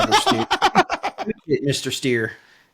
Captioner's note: laughing